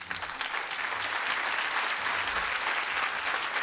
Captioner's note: applause